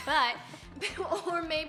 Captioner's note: laughter